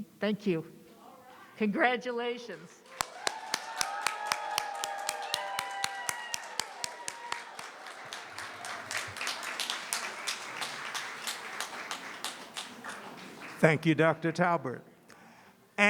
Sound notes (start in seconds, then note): 3.5 applause and cheering